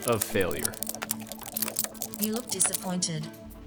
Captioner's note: rapid whooshing and clicking